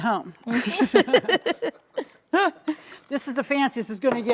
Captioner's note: both chuckling